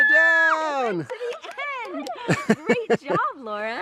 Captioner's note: clapping and laughing